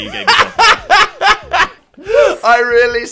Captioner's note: laughs